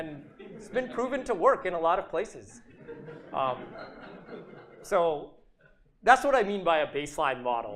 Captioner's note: chuckling